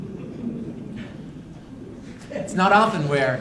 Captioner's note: laughter